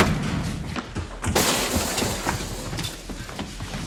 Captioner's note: door slamming